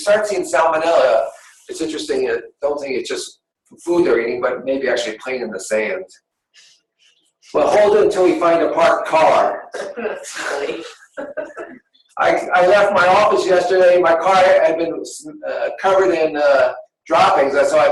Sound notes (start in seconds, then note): 10.6 laughter